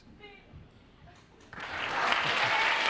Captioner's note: applause